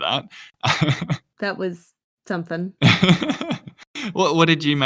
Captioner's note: laughs